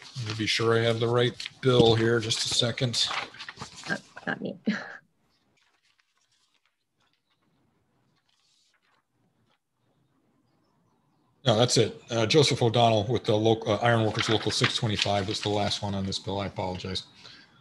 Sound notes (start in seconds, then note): 7.5 chuckles